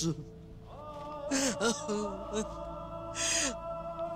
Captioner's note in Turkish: Hayme ağlıyor